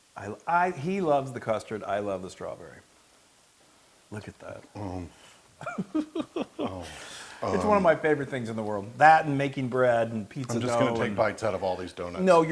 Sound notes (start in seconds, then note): 5.6 laugh